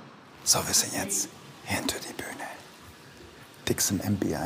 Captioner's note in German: flüstert